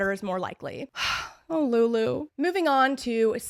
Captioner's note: sigh